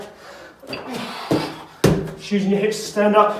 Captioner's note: exhales sharply